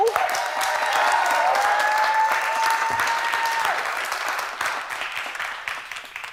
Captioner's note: audience applauding and cheering